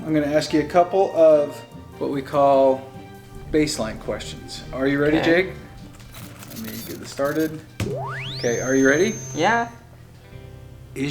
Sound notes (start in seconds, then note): 8.4 computer whistles